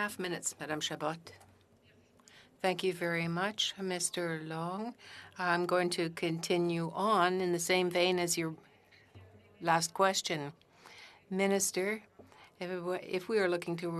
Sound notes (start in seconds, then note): 4.0 speaking French